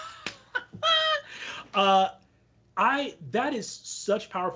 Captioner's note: laughs